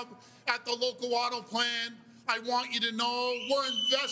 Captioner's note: cheers and Applause